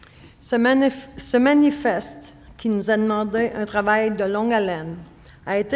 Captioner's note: speaking French